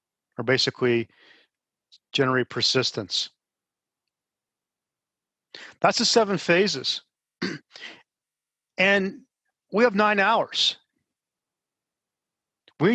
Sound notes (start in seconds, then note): 7.4 cough